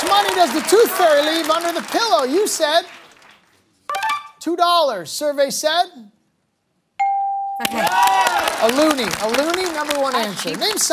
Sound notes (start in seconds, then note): 7.0 bell dings